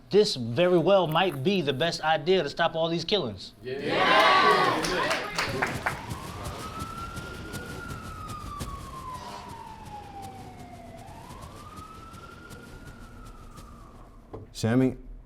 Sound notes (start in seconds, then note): 3.6 crowd cheers; 6.3 siren whirling